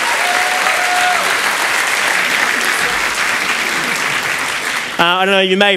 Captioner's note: applause